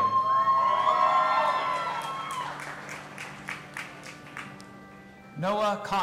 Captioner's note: audience applauding and cheering